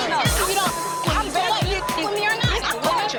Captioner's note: beep